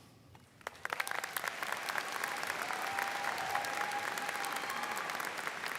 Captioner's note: students cheering and applauding